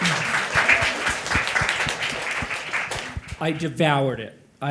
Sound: audience applauding

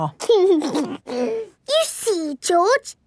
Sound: giggles

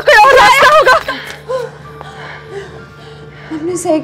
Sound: gasping

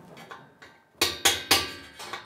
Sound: hammering

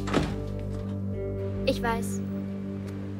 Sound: door closes; in German

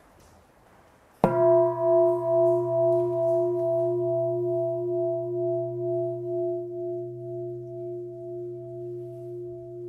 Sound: bell

